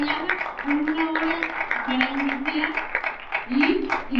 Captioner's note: audience claps